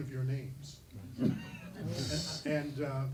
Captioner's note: laughing